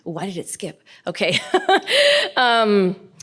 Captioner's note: laughs